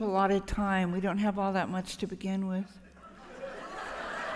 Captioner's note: laughter